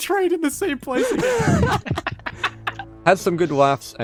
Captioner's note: laughing